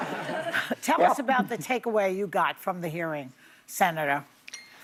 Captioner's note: laughter